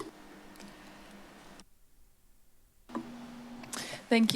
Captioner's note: silence